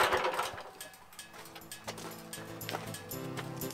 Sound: engine Stops

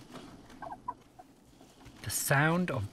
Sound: baby quoll murmurs

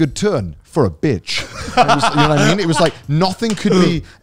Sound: laughing

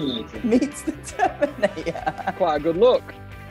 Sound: laughing

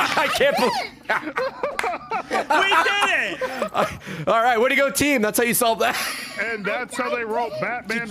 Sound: laughs

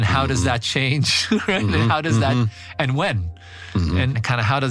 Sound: laugh

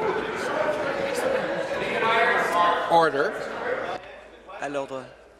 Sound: conversation din

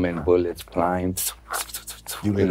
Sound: imitates gun fight

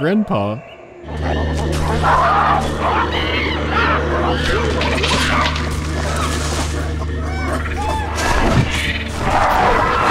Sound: baboon heckling and repositioning

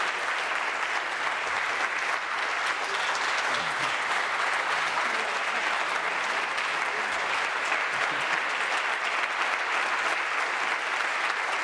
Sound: applause

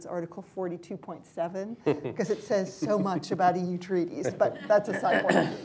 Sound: laughter; laughter

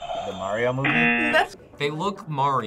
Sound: buzzer; buzzer rings

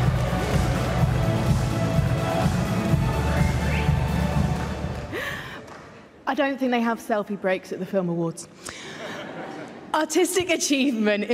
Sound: applause

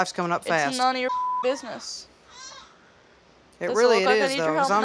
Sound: beep

